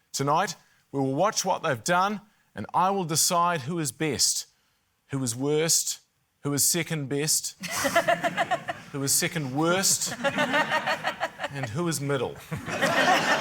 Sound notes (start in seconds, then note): 7.6 laughter